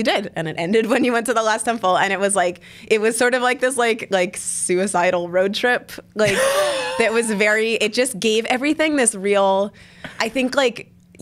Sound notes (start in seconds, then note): 6.2 laughs